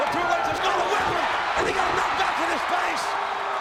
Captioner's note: audience cheers